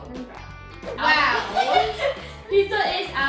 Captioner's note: laughing